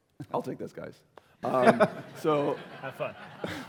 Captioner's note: laughter